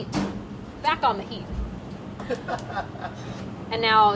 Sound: man laughs

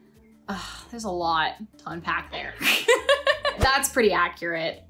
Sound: laughs

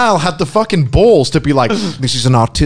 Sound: laughing loudly

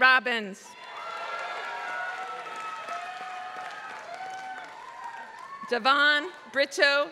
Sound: applause

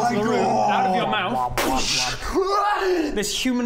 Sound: boosh!

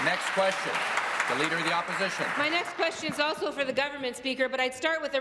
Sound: applause

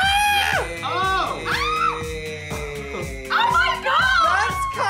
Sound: screams

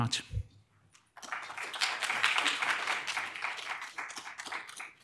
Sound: audience applauding

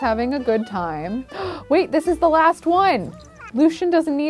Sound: gasps

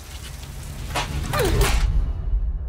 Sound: francesca grunts

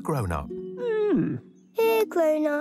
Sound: grumbling

